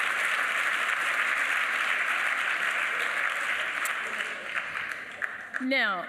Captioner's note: applause